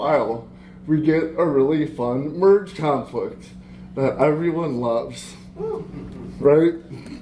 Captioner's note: laughter